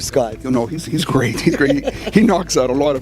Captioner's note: laughing